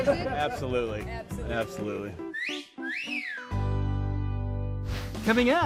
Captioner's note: whistle